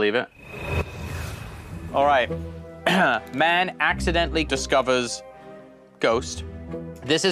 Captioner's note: clears throat